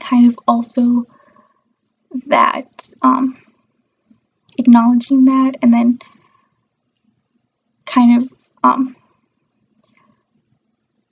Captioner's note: awkward silence and weird faces